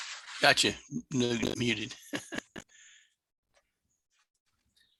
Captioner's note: chuckles